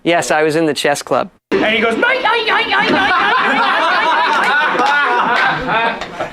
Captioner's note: laughter